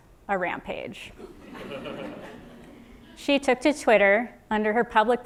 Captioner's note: laugh